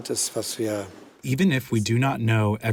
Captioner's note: through translator